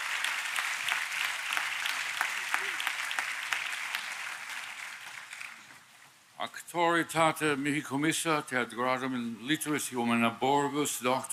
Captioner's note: applause